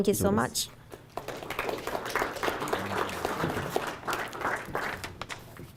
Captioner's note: audience applauding